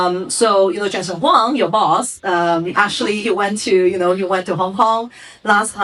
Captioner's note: chuckles